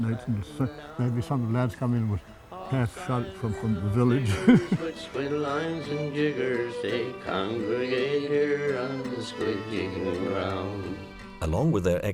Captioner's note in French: rires